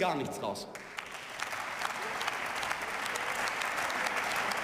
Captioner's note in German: Beifall